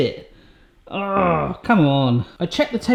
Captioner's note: groans